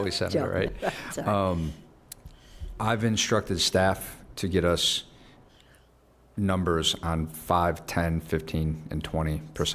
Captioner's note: laughter